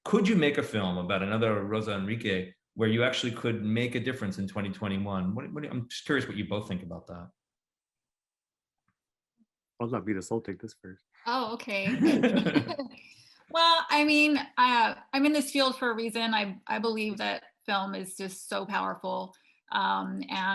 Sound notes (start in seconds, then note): 11.8 everyone laughing